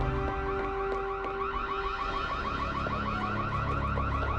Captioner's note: wailing continues